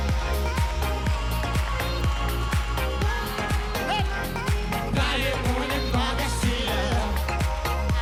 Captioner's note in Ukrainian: оплески; оплески